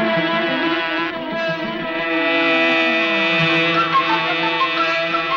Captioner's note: car engine buzzing